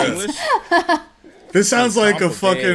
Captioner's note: chuckles